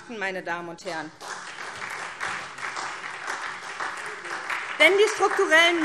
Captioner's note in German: Beifall SPD und vereinzelt DIE LINKE